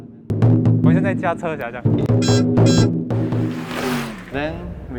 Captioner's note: drum sound; Mandarin